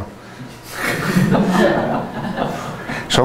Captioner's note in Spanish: risas